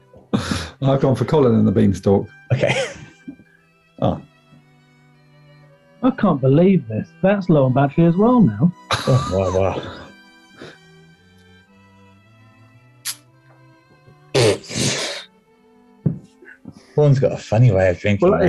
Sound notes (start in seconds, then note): 2.5 laughs; 8.8 sniggering; 12.8 slurp; 14.1 spluttering laugh